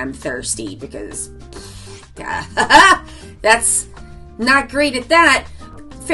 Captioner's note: laughs